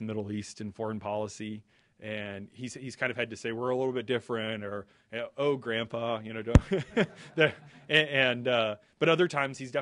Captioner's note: laughter